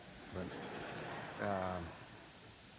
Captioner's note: laughter